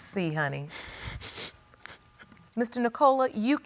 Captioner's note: sniffles